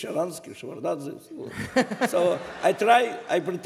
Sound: laughter

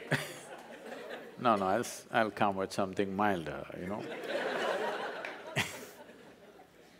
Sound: laughter

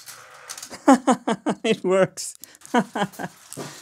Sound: laughs

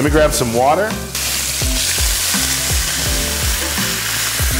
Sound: sizzling

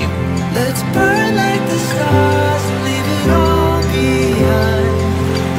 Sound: none

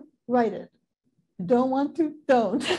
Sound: laughing

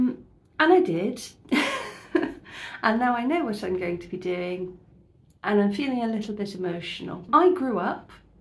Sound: laughing

